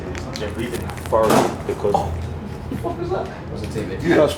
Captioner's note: loud thud